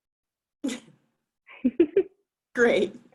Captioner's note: laughs